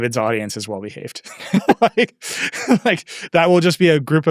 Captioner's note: laughing